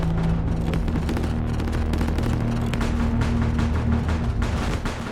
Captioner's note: guns blaring continues